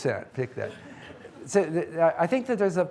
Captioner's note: audience laughing